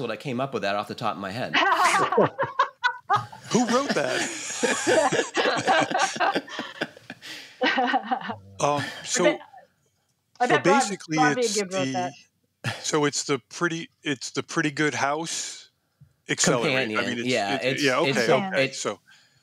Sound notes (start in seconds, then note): 1.5 laughter